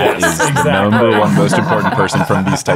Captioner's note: everyone laughing